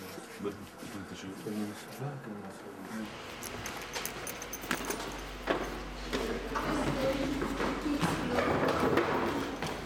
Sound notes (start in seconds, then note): 3.3 footsteps